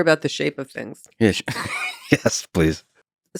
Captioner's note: laughs